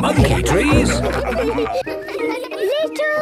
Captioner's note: all laughing